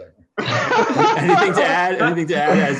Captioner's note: laughter